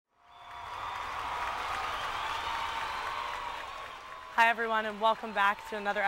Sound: crowd cheering

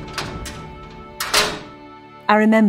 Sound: cell door opens

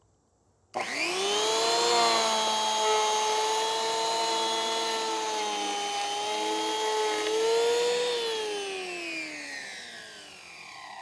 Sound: machine sound

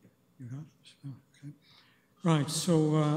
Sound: clerk whispering

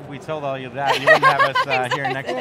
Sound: laughs

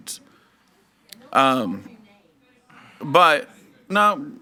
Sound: faintly speaking

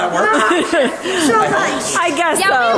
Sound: laughs

